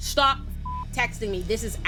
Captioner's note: beep